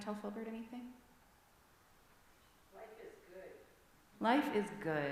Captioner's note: answer from congregation